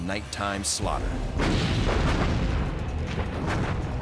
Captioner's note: gunfire